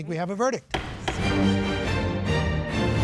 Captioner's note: gavel bangs; dramatic music